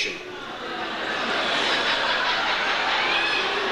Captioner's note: audience jeers